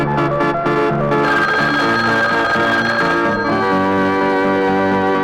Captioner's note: phone ringing